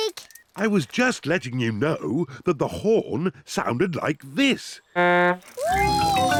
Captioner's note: honks horn